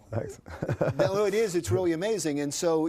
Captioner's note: laughs